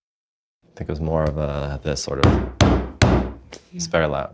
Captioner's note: knocking on door; pounding on table